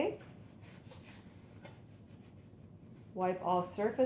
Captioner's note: wiping sounds